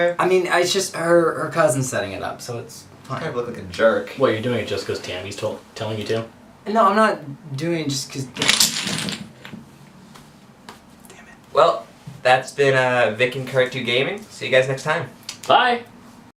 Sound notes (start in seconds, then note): 8.3 Jenga pieces falling